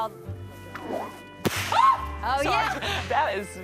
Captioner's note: screams